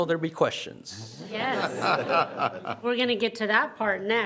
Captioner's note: everyone laughs